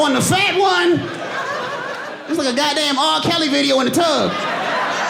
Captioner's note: audience laughing